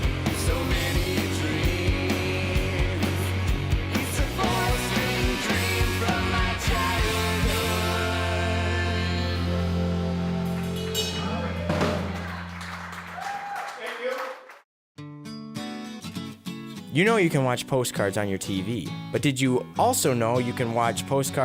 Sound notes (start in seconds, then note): 10.4 audience clapping and cheering